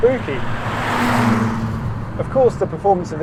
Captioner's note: engine revving